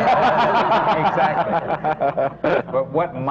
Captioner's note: laughter